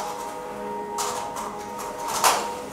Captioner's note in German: Klackern